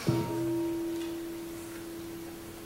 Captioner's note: bell rings